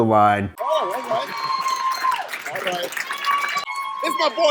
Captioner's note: staff cheers